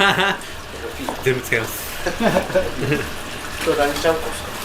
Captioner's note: laughs